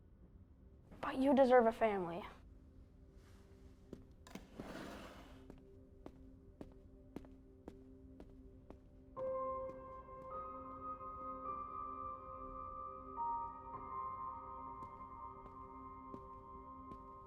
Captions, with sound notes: But you deserve a family. (footsteps thumping) (thoughtful music)